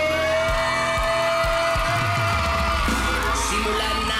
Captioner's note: audience whooping, clapping